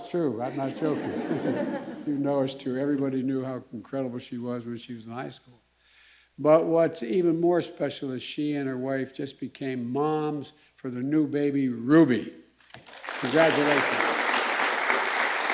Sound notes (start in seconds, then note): 0.4 laughter